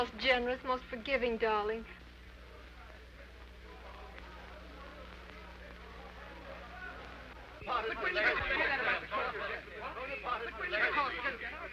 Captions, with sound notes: You're the most generous, most forgiving darling. (men chattering)